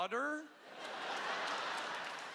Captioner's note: laughter